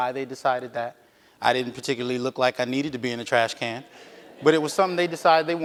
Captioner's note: audience laughs